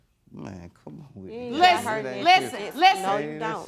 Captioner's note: both arguing